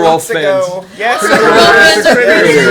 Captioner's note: cheers